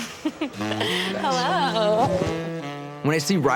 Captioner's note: giggles